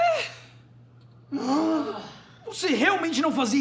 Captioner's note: grunt